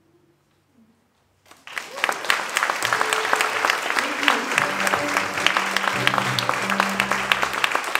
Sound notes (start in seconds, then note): 1.4 applause; 4.8 continued applause